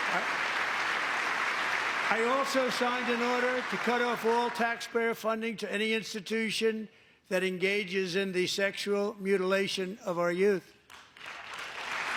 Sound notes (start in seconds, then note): 2.3 applause